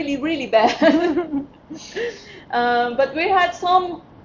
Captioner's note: laughing